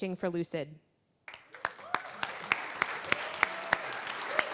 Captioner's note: applause